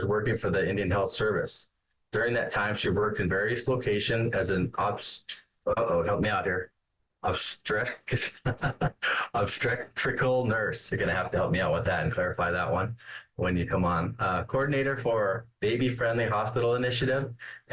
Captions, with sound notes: working for the Indian Health Service. During that time, she worked in various location as an, uh-oh, help me out here, (stammers) (laughs) obstetrical nurse, you're gonna have to help me out with that and clarify that one when you come on, coordinator for Baby-Friendly Hospital Initiative